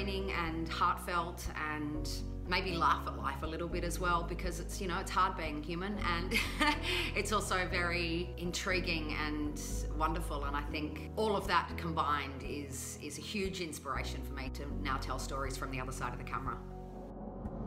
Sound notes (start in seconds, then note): 6.3 laughter